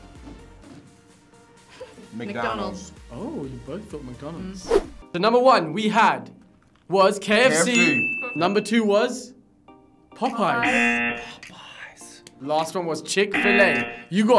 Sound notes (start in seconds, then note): 10.5 buzzer blares; 13.3 buzzer blares